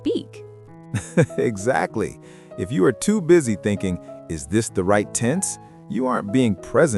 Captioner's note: laughs